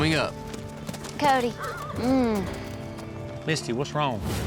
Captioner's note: groans